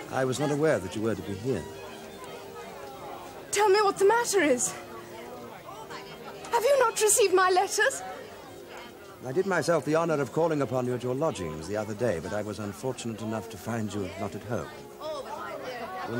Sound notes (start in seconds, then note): none